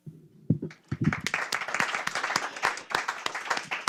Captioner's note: applause